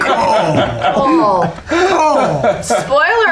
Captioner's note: laughter